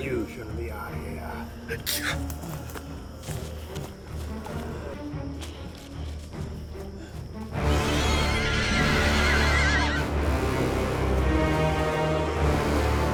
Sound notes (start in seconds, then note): 0.0 flies buzzing; 0.3 Miles gasps; 7.6 screeches; 10.2 ominous music